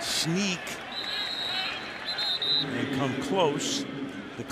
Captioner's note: whistle